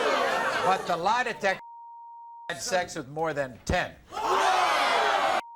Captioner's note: audience groans; beep; audience groans